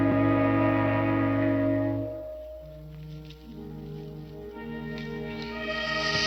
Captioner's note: ominous orchestral music; snake hissing